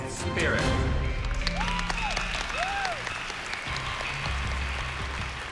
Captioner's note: cheering